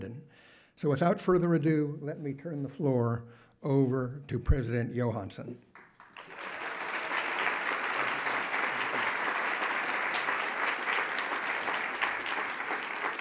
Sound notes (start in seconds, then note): 5.7 audience applauds